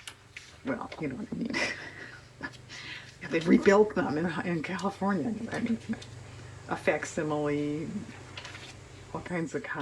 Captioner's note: laughs